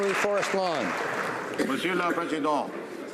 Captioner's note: applause